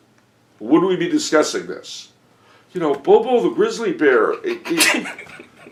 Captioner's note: giggling